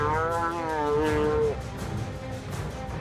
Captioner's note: cow bellowing